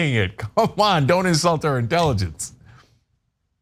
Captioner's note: laugh